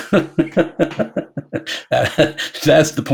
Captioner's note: laughing